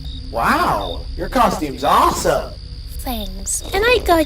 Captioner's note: impressed